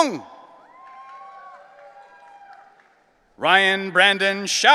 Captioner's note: audience cheering